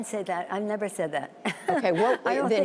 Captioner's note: laughter